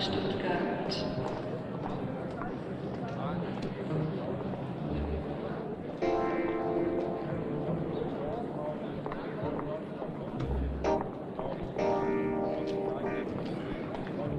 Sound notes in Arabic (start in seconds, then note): 2.8 ثرثرة الحشد; 11.3 موسيقى مشوقة